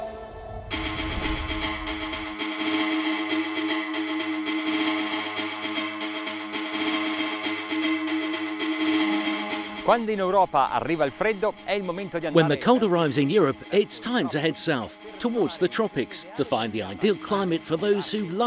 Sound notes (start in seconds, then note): 0.3 dramatic music; 10.0 speaks in foreign language